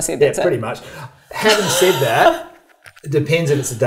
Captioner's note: laughs